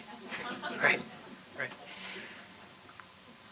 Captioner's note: laughter